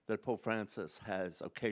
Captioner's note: none